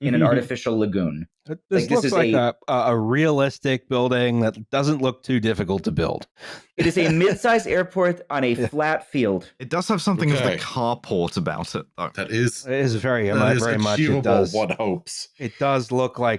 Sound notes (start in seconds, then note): 6.7 laughs